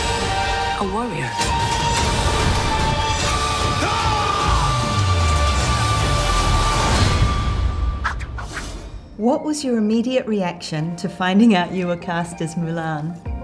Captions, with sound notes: - A warrior. (yells loudly) (dramatic music) - What was your immediate reaction to finding out you were cast as Mulan?